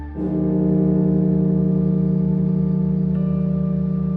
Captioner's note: bell tolling